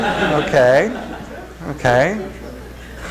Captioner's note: laughter